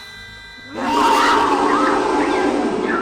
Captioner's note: screaming